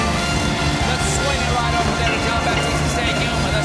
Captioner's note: applause